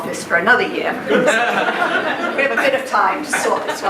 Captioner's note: laughing